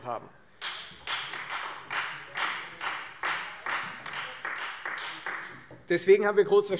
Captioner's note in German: Beifall Freie Demokraten